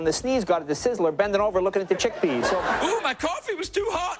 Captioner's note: audience laughing